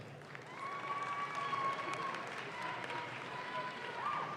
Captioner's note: audience claps